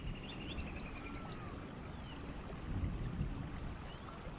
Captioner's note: birds chirping